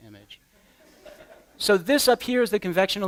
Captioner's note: laughter